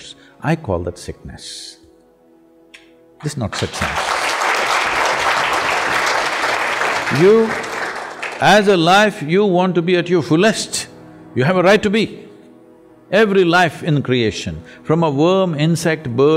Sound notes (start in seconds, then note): 3.5 applause